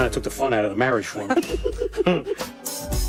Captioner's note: both laughing